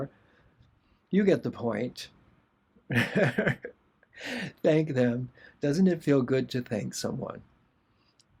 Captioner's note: laughter